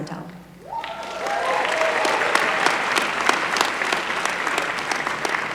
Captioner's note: applause